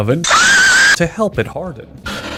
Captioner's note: another violent scream